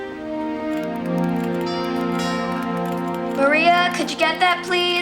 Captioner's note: doorbell chimes